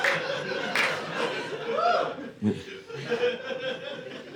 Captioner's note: audience laughing